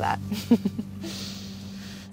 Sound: laughs

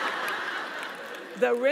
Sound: laugh

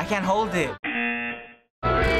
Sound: buzzer

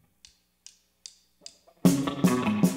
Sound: drum sticks clanking; uptempo rock music

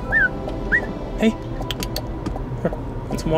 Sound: whistle; tongue clicks

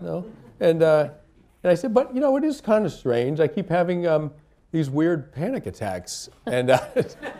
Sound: laughter

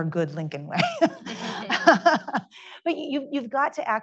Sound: laughs

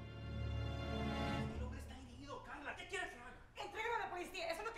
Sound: yelling in Spanish

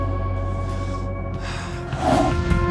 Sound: sighs; warm pensive music

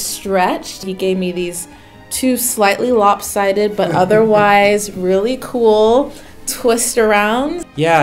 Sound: dad laughs off camera

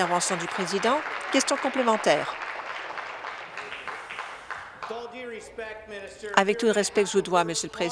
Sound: applause

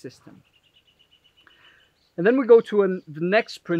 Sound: bird chirping

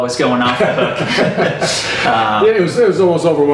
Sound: laughter

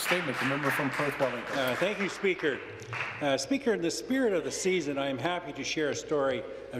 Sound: some Applause

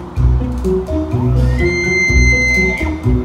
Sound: elk call

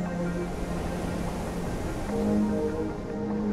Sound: winds roaring

